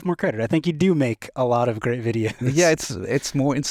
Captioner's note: chuckles